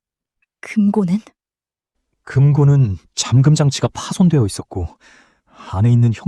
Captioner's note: sigh